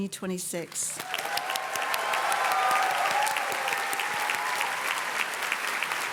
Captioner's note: audience cheers and claps